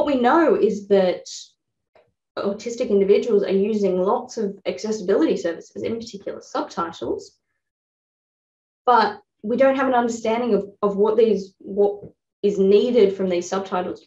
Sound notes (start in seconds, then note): none